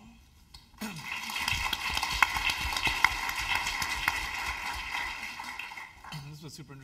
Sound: applause

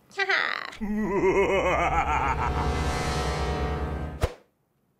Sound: ominous music; voice-over

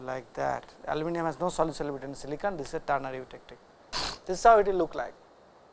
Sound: vocalized noise

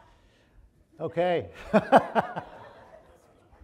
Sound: audience laughing; laughs

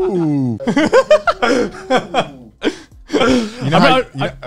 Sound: laughs

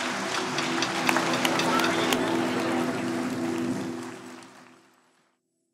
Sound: audience applause; drone sound, musical chord; applause

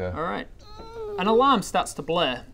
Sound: eeeeeep

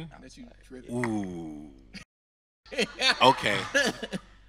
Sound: host laughing

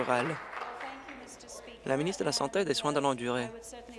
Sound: applause

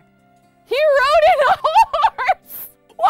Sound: laughs

